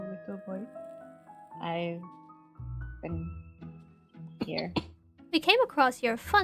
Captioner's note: STONE coughs